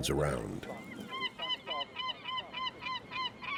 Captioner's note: gulls calling